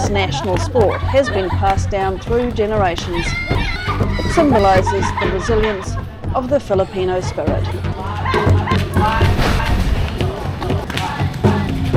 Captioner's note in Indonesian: tertawa